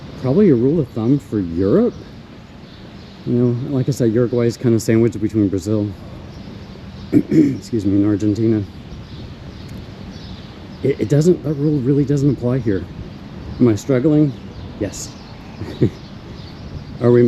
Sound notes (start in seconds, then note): 7.1 coughs - excuse me